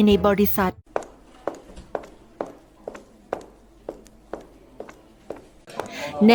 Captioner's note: SOUND of walking